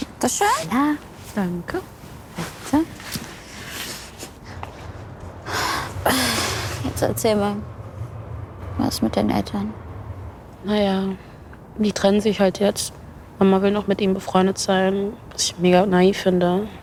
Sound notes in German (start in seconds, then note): 5.4 seufzt